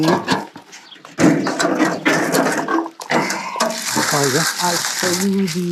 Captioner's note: barrel lid clangs